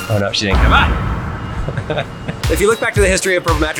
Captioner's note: laughs